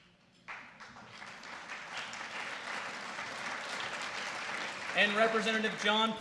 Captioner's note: applause